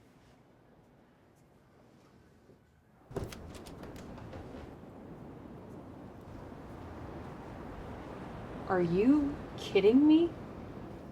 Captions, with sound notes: (door clicks) (waves crashing) Are you kidding me?